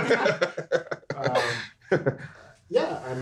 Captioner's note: everyone laughing